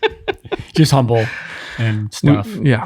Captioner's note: laughing